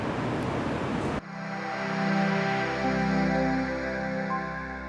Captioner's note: electronic humming